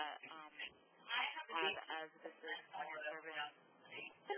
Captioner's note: multiple voices speaking